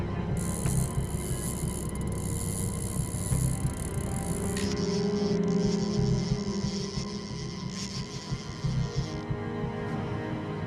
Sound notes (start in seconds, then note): 3.0 ticking continues